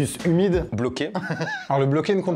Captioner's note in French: rires